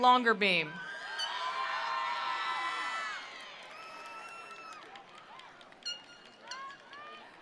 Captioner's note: attendees cheering; attendees applauding